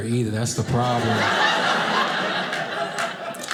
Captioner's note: audience laughing